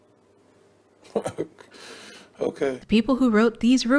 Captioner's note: uncomfortable laugh